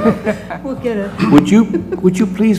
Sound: laugh

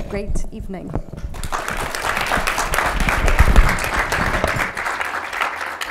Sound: audience applauding

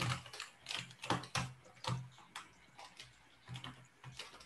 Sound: mouse clicking; keyboard clattering

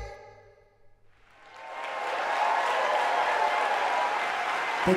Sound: applause and cheering

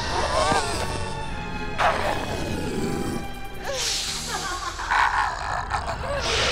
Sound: dramatic instrumental music; growling

